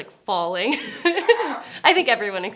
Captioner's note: laughs